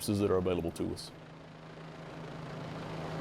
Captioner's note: helicopter whirring